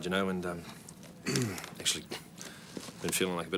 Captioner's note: clears throat